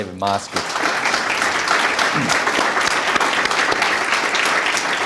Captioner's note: audience applauding